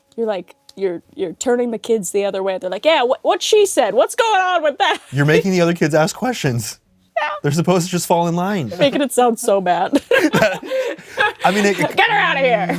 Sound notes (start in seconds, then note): 9.9 both laugh